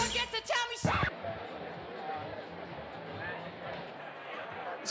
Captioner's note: people chattering